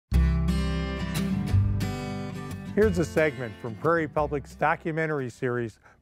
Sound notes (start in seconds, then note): 0.1 bright music; 2.8 voiceover